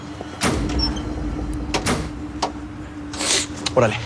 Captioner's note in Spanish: Sonidos al abrir las puertas